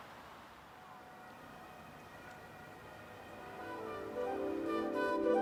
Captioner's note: city sounds, distant sirens